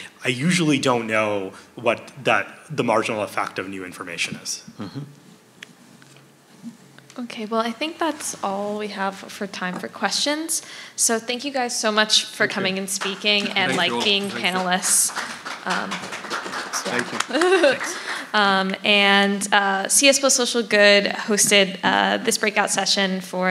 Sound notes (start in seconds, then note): 15.1 applause; 17.9 laughing